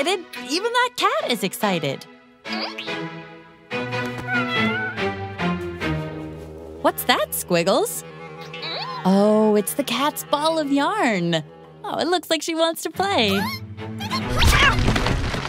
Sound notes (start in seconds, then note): 4.1 meow